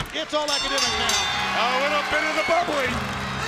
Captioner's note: bell rings